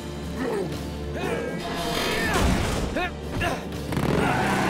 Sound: grunting

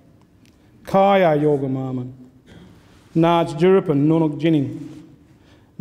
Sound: speaks in foreign language

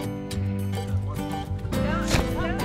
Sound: people chattering faintly

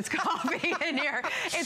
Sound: laughter

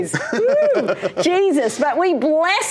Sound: laughs

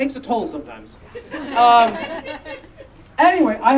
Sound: audience laughing

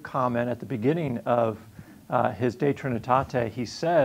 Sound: speaking in foreign language

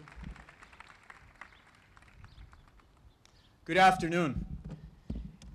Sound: applause

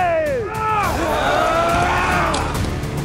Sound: moaning

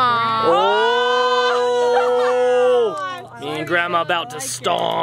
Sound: crowd exclaims

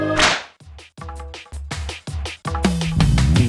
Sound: SFX - Slap

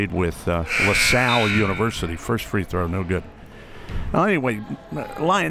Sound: buzzer

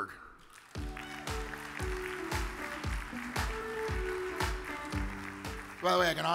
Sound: audience applauds; upbeat music

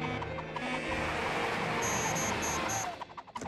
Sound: beeping; beeps accelerating

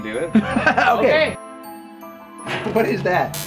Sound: laughs

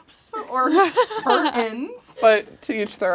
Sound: laughs

